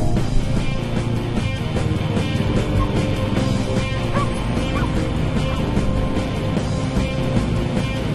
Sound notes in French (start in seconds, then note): 0.0 upbeat music playing; 0.7 engine revving